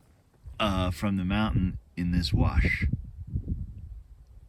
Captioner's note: none